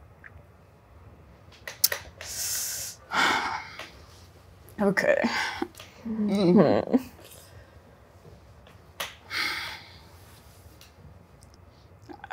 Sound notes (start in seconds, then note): 3.0 sighs; 6.7 groans